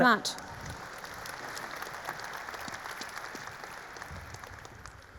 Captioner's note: audience applauding